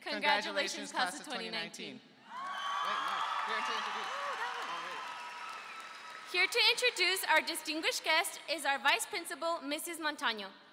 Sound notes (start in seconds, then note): 2.3 audience cheering